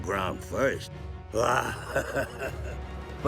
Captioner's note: laughing